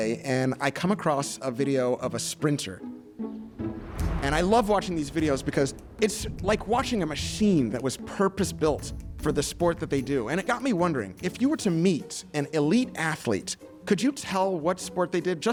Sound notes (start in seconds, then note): 2.7 upbeat music; 3.5 air whooshes